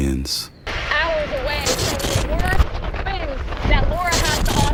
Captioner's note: distorted voice